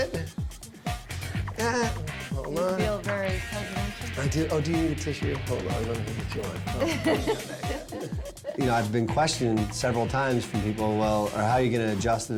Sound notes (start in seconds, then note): 6.7 laughter